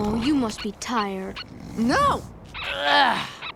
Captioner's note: grunting